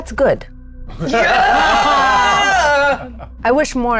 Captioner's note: group laughs